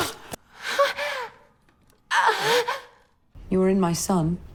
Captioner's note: moaning